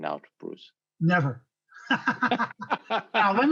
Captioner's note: laughing